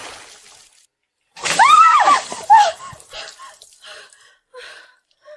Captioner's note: anger noises